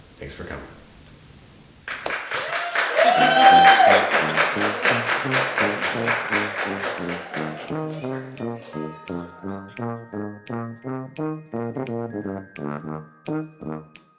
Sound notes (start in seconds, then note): 1.8 audience laughing and applauding; 4.3 cheerful tuba music